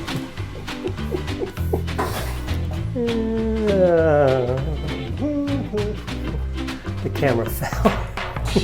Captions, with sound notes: (laughs) The camera fell.